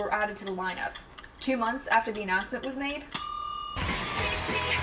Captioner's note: ding